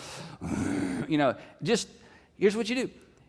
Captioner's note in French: grognements